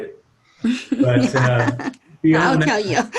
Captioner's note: laughs